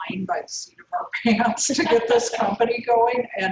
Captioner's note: laugh